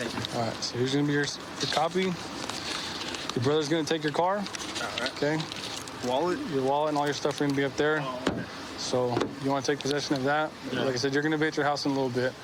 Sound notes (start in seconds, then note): none